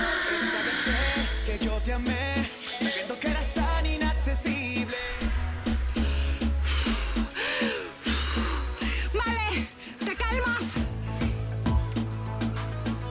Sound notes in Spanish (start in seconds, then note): 0.0 Gritos y exclamaciones; 0.0 Suspiros; 5.0 Inhala y exhala